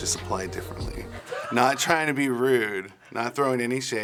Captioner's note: laughs